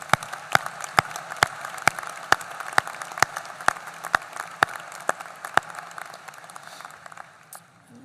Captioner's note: applause